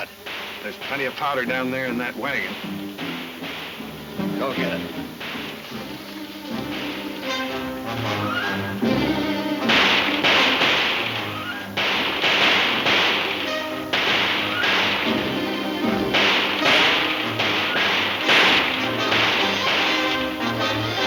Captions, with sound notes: - There's plenty of powder down there in that wagon. - Go get it. (dramatic music) (guns firing)